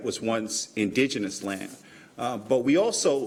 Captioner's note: none